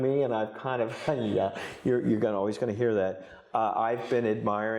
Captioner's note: chuckles